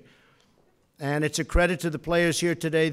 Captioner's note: none